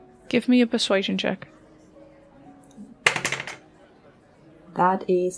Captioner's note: dice clacks